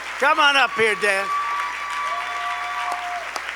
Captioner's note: applause